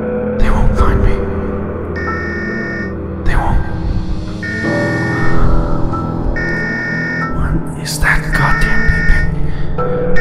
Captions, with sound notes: They won't find me They won't... (distant beeping) What is that goddamn beeping?